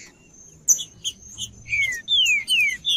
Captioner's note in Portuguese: trinca ferro cantando